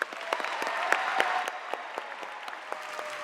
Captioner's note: applause